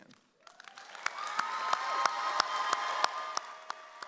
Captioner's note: audience cheers